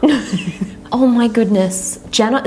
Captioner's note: laughs